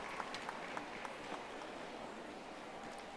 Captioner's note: audience applauding